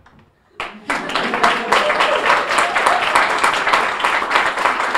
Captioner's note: audience applauding